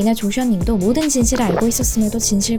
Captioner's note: gulp